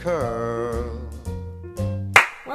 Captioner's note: claps